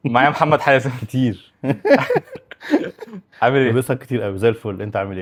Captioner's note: laughs